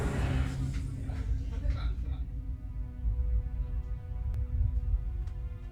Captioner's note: family laughing in background; soft dramatic music